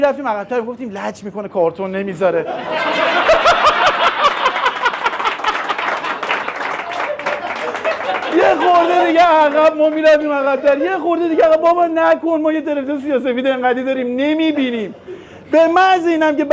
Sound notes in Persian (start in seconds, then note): 5.6 خنده